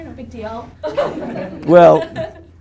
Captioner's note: group laughing